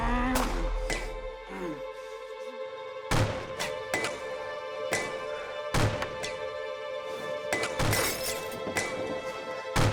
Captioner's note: grunting; gunfire